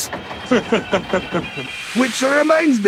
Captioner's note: Gordon Chuckles